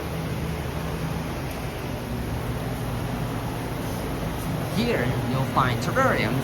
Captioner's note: walking